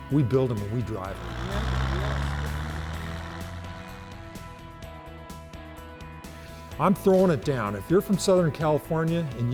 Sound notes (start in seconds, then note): 0.5 car engine roaring; 0.5 upbeat music